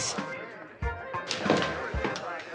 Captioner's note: people chattering